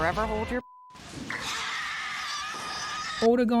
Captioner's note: bodysnatchers screeching